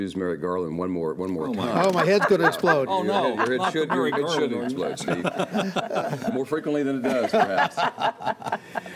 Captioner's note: laughter